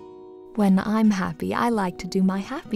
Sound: voiceover

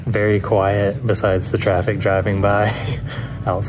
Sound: chuckles

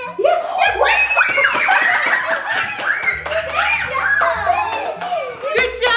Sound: everyone cheers and applauds

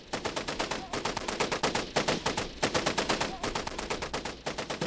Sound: gun firing

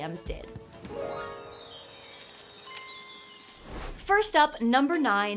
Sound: chimes twinkle

